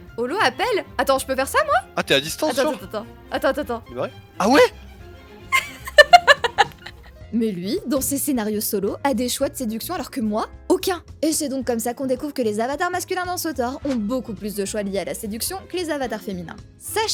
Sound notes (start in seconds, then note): 5.5 laughs